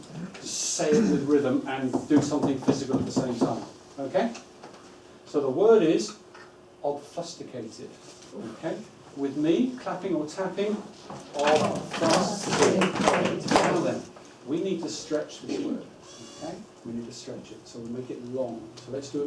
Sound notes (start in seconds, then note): 1.9 tapping desk; 12.7 clapping